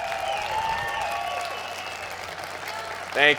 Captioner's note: crowd cheers